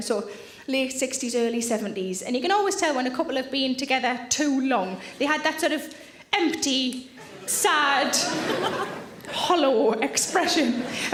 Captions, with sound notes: So late 60s, early 70s. And you can always tell when a couple have been together too long, they have that sort of, empty, sad, (audience laughing) hollow expression.